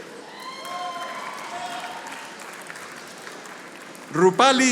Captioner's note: audience applauding